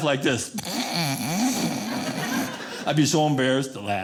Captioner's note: audience laughing